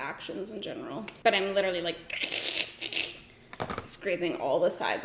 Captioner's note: imitating scraping sounds